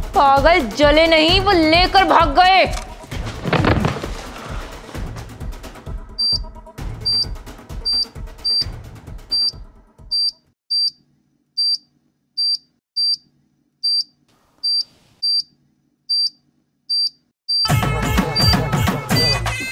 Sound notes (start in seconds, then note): 6.2 beeping; 16.9 continuously beeping